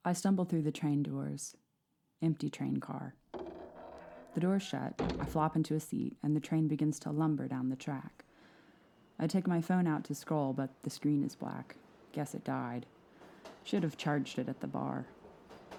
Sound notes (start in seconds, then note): 3.3 train doors creaking shut